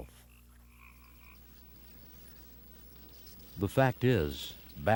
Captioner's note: bats chittering